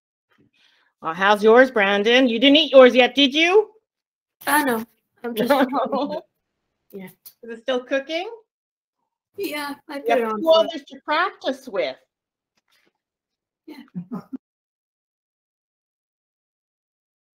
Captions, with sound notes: How is yours Brandon? You didn't eat it yet did you!?!? (Small Class Laugh) Is everyone still cooking? Yeah (unknown high pitched voice)